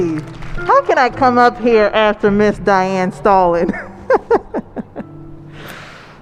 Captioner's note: chuckles